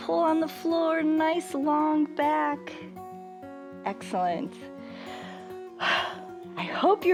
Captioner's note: inhales and exhales